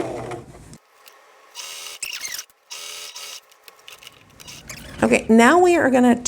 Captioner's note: video fast-forward trilling